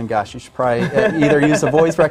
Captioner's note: laughs